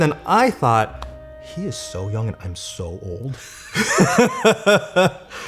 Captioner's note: laughs